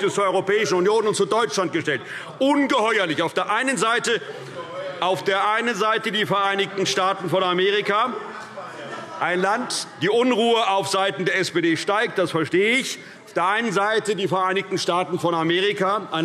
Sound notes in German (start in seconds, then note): 8.4 Lebhafte Zurufe SPD